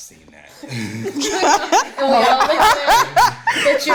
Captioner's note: all laughing